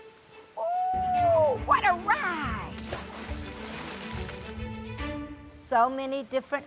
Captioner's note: water splashing